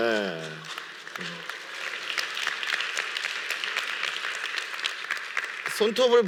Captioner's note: applause